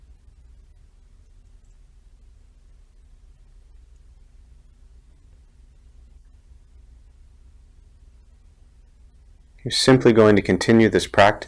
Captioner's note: silence